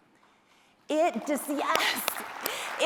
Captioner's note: applause